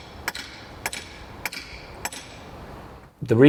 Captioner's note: hammering rings out